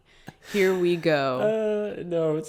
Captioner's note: chuckles